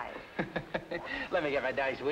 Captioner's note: Ritchie laughing